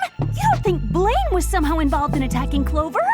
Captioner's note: gasping